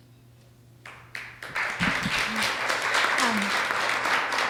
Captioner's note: audience applauds